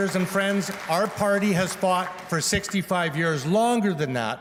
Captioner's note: applause